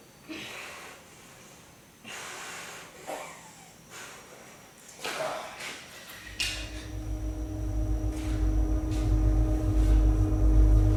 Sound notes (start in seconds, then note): 5.2 footsteps and deep grunting; 8.9 suspenseful music